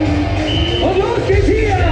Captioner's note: crowd cheering; whistles